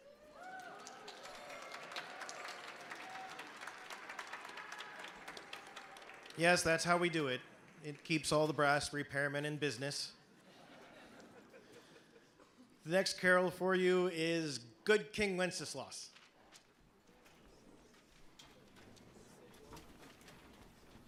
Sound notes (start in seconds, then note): 10.4 audience laughing